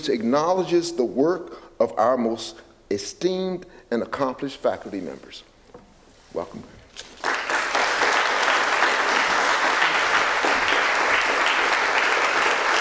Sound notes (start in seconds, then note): 7.0 applause